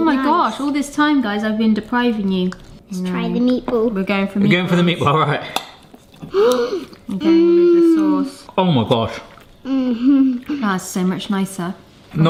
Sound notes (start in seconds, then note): 6.2 gasps